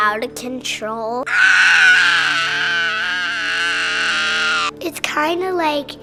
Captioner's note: yells